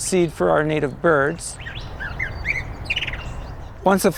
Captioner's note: birds calling